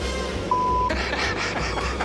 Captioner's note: laughs